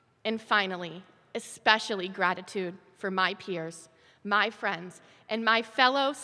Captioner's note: none